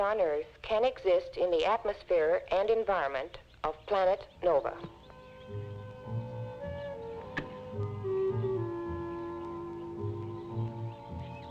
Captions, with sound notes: can exist in the atmosphere and environment of planet Nova. (gentle music) (birds chirping)